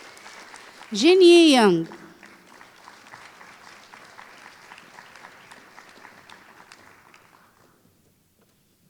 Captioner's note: applause